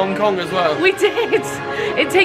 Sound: laughs

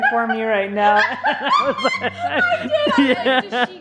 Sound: laughing

